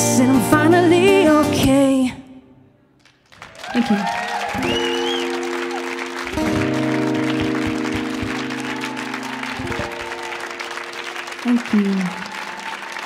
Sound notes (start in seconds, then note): 5.6 audience applauding